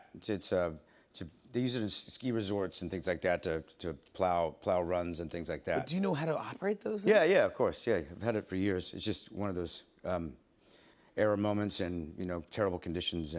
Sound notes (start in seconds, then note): none